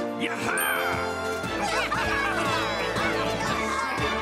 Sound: all laughing

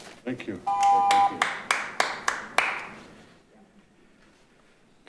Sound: group clapping

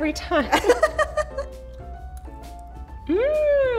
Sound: laughing

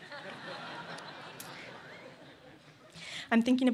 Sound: laughter

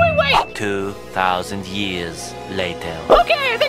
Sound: recorded Voice

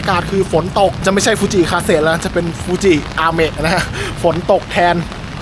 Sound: rain

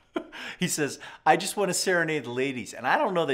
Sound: laughs

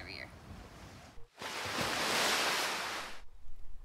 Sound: waves Crashing

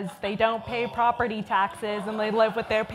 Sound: audience groans and laughs

